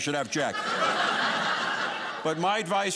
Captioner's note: audience laughing